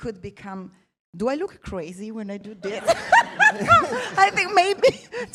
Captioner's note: laughs